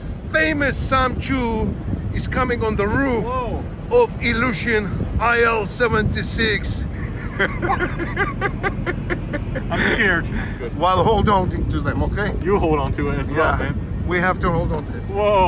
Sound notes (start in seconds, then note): 6.9 laughing